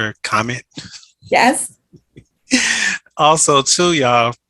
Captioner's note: chuckling